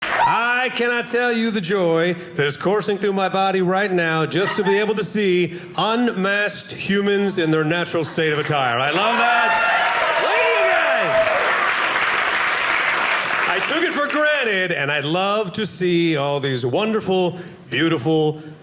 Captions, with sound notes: I cannot tell you the joy that is coursing through my body right now just to be able to see unmasked humans in their natural state of attire. I love that. Look at you guys! (audience cheering) I took it for granted and I love to see all these wonderful, beautiful,